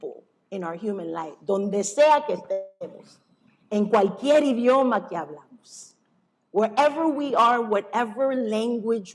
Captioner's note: non-english speech